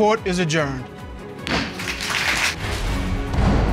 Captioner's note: gavel pounds; dramatic music playing